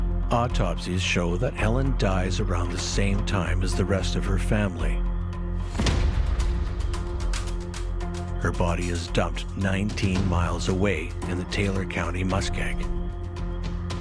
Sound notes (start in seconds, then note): 0.0 suspenseful music; 5.7 gun fires